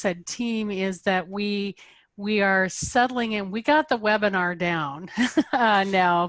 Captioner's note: laughs